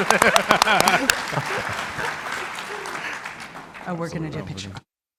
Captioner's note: panelists laughing; audience clapping